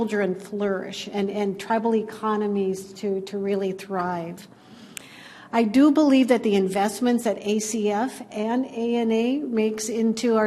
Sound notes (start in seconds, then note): none